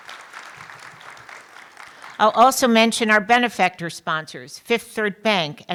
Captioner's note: applause